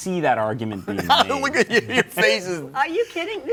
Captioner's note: laughs